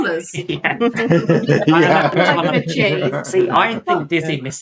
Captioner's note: all laughing